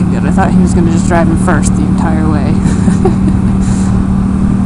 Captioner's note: laughs